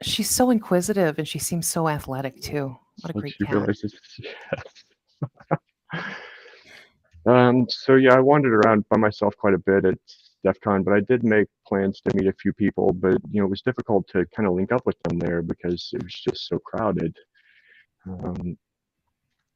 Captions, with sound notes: - She's so inquisitive and she seems so athletic too, what a great cat. - she realizes yes, (giggles) so yeah, I wandered around by myself quite a bit at DEFCON, but I did make plans to meet a few people, but you know, it was difficult to kinda link up with them there because it was just so crowded.